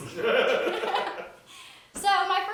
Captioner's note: all laughing